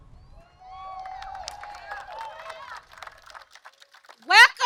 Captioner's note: applause